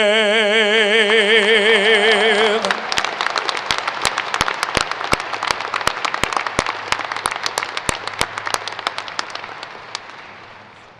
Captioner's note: applause